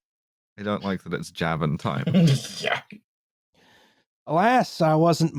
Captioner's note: short chuckle